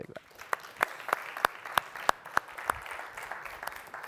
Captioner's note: applause